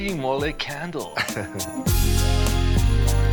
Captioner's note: chuckles; upbeat music